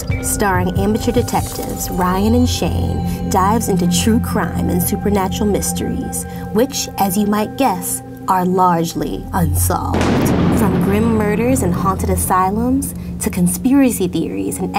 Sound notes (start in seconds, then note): 9.9 thunder rumbling